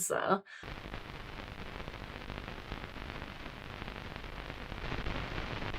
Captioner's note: static crackle